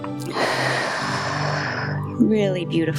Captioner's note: exhales; inhales